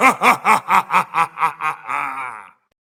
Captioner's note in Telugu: నవ్వు